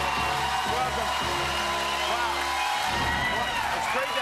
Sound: cheers and applause

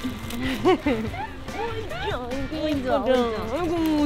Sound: aww

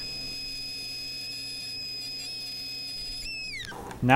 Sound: saw buzzing

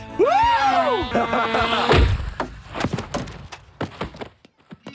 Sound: laughing

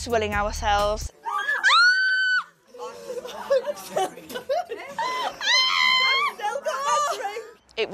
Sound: screams

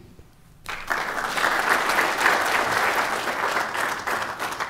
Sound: applause

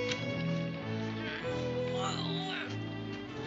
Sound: grunting

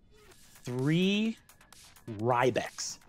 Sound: none

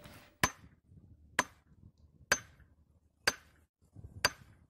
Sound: hammer banging

